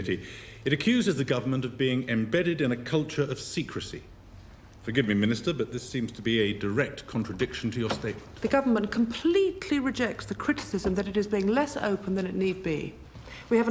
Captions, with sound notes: It accuses the government of being embedded in a culture of secrecy. Forgive me, Minister, but this seems to be a direct contradiction to your statement. (door opens and closes) The government completely rejects the criticism that it is being less open than it need be.